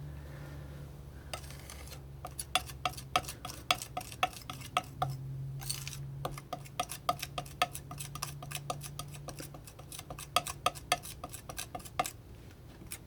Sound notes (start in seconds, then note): 1.3 scratching